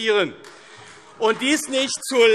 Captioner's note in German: Beifall AfD - Zurufe: Oh!